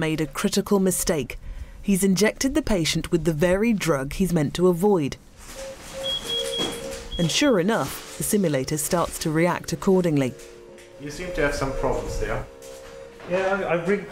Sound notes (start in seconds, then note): 5.5 beeping